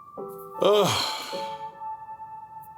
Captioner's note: exhale